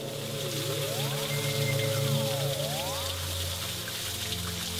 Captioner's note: water trickling